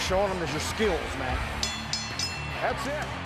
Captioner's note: bell dings